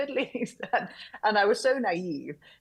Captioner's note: chuckles